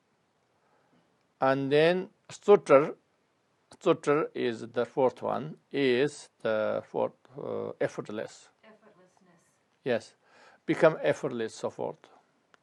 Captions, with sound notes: And then [Tibetan] is the fourth one is the effortless Yes, become effortless so forth.